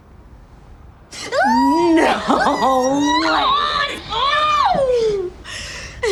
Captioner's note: squeals; both squeal; laughs